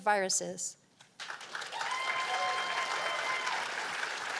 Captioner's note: cheers and applause